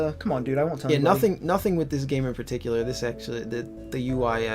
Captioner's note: fumbles with words